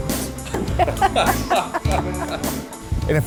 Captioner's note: laughing